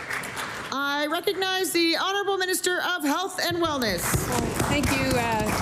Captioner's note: applause